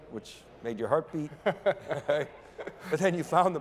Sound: laughing

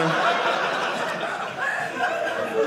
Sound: audience laughing

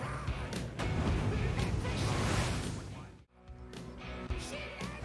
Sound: upbeat music; water splashing

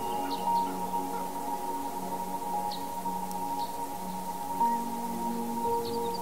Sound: fire crackling

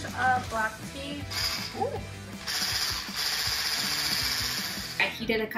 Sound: machine whirring

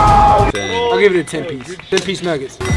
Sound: chime

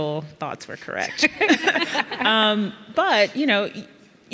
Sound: laughing

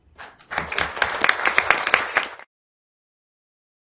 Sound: applause

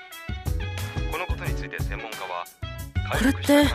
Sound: trails off in the background

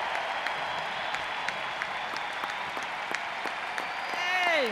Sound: cheers and applause

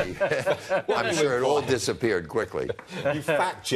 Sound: laughter

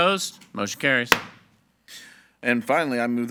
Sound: gavel thuds

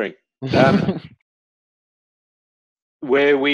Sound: laughing

